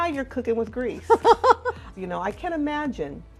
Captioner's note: laughter